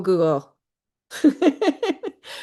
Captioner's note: laughs